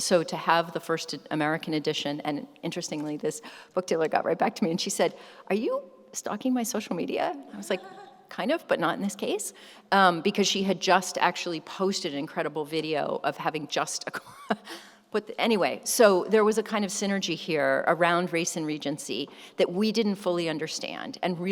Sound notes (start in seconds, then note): 14.5 chuckles